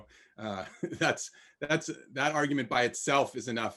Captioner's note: laughs